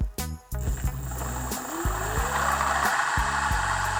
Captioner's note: machine whirring; laid back music